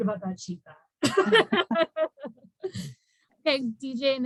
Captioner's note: laughing